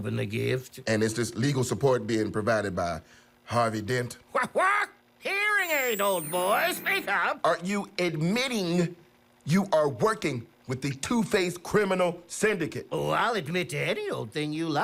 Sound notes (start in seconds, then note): 5.4 high-pitched squealing; 5.8 squawks